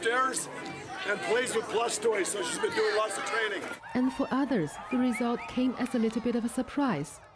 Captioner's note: cheering